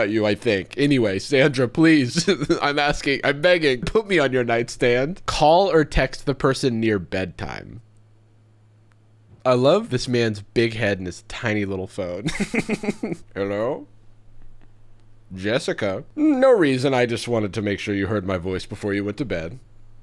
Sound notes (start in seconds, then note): 12.2 chuckling